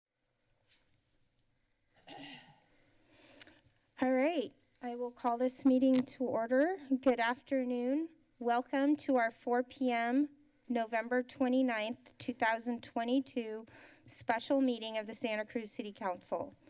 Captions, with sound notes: [throat clearing] Alright, I will call this meeting to order. Good afternoon. Welcome to our 4:00 p.m., November 29, 2022, special meeting of the Santa Cruz City Council.